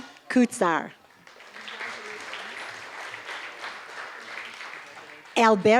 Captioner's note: applause